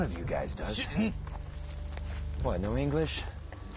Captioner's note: speaks foreign language